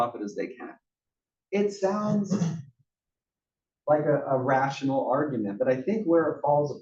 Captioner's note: cough